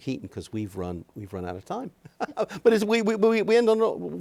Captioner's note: laughs